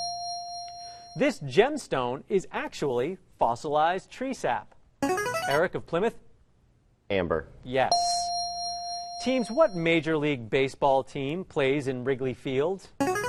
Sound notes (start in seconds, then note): 5.0 ringer; 7.9 ding; 13.0 ringer